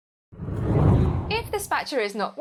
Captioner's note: hard whooshing